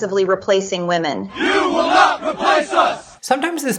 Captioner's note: crowd